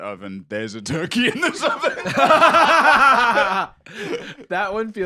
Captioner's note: both laughing